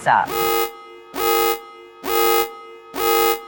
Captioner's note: alarm